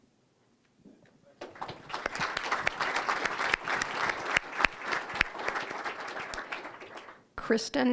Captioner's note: applause